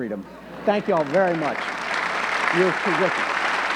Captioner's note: audience clapping